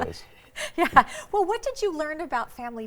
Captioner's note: laughs